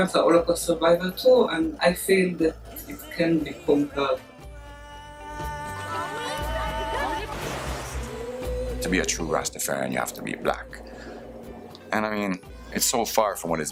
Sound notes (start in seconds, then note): 5.8 crowd chatter, laughter; 6.8 splash